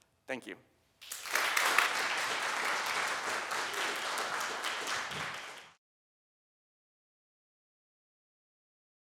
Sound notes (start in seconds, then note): 1.0 applause